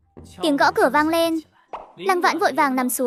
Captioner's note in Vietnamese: Tiếng gõ cửa vang lên